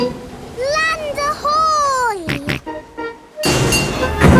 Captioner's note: snorts